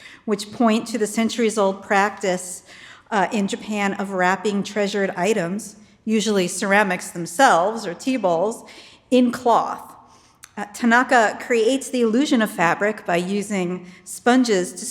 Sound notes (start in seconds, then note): none